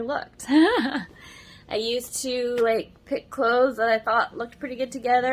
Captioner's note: laughs